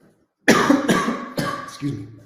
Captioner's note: coughs